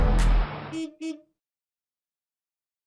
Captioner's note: horn honking